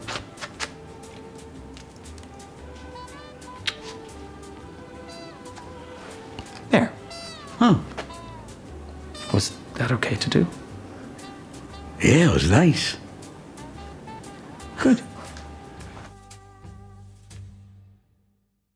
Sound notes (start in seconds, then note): 0.2 upbeat jazz music; 3.4 lips smacking; 4.2 upbeat jazz music; 15.3 upbeat jazz music